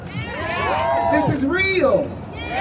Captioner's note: crowd cheering